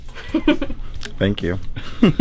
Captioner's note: laughing